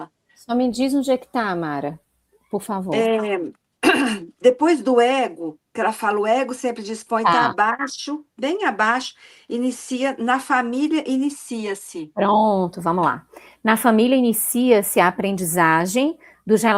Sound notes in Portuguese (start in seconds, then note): 3.8 limpando a garganta